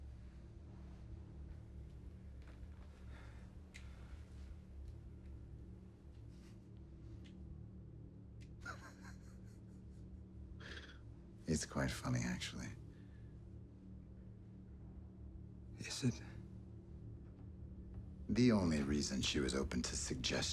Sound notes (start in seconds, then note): 6.1 chuckles